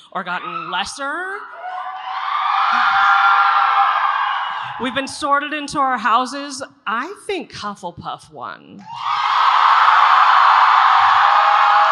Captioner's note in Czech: Potlesk